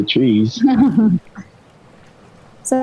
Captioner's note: laughing